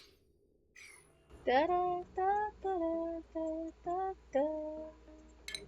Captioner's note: humming